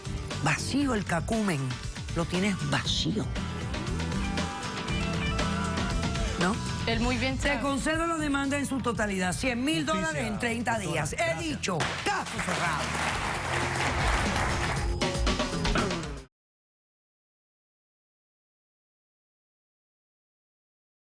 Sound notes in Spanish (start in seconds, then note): 14.5 Aplausos